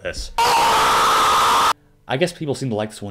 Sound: loud Funny Scream

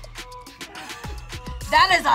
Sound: React laughs

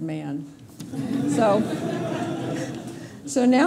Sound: laughter

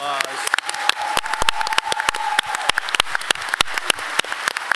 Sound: applause

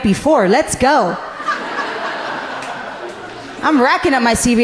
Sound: audience laughing gently

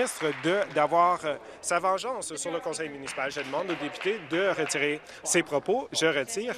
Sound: applause

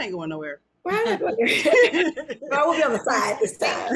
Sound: laughs

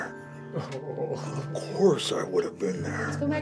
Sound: chuckles

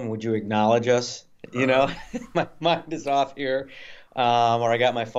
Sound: laughs

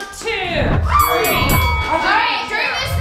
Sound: bell dings

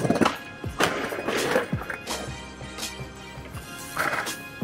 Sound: skateboard clatters

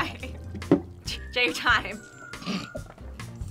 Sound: laughs; snorts

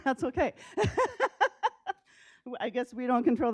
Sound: laughs

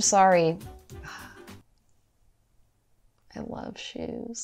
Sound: dramatic sigh

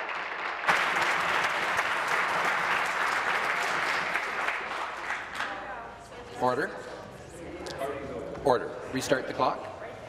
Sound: applause

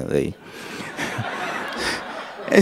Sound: laughter

